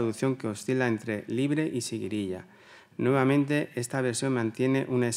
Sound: continues in Spanish

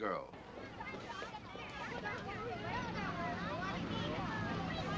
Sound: people chattering

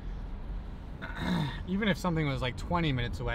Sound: clearing throat

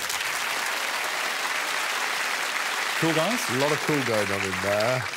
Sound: audience applause

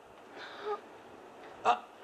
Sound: gasps

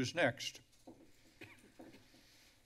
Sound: coughing; pause

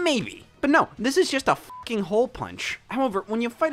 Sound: beep

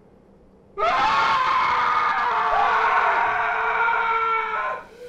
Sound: Jack screaming

